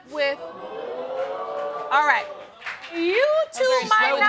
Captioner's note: audience exclaiming